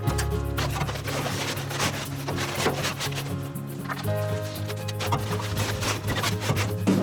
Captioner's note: gentle music; paper rattling